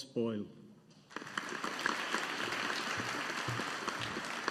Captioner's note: audience applauding